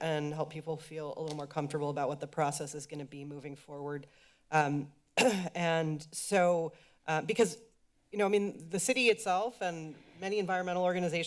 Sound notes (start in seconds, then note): 5.2 coughs